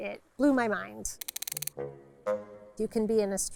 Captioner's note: clicks